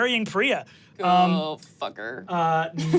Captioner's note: laughs